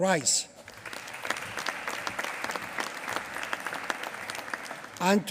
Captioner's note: applause